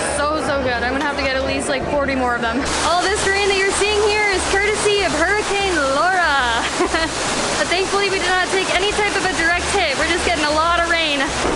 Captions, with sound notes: So so good. I'm going to have to get at least like 40 more of them. All this rain that you're seeing here is courtesy of Hurricane Laura. [Laughs] But thankfully, we did not take any type of a direct hit. We're just getting a lot of rain!